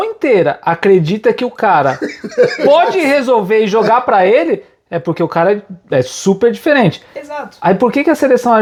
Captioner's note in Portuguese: risadas